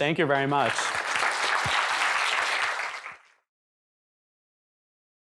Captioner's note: applause